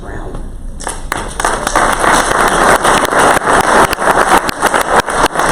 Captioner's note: crowd applause